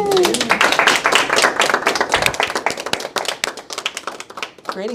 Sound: attendees applauding

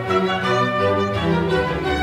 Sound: none

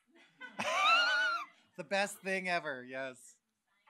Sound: laughs

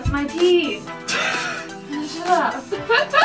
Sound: laughs

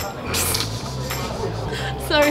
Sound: giggling

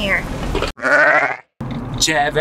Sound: vicuna orgling

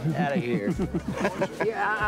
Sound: laughing

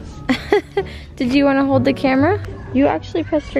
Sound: laughs

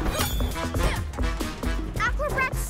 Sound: upbeat music; grunts

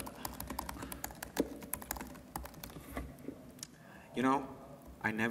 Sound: typing sounds

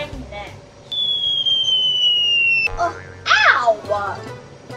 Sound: acorn falling

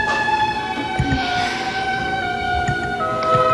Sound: sighs

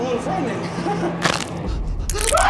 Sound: cracking; screaming

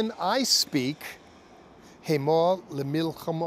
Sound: speaking Hebrew

